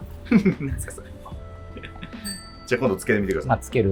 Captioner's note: laughing